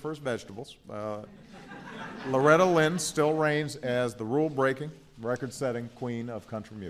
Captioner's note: laughter